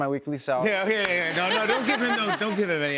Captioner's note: laughter